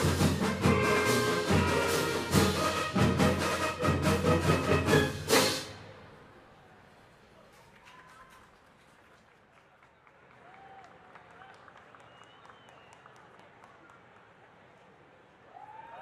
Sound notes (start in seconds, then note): 7.3 audience cheering; 7.6 audience applauding